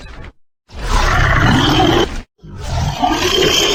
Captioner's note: monster Roar